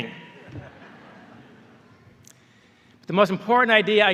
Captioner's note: laughter